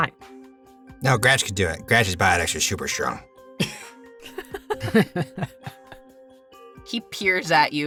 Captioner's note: chuckles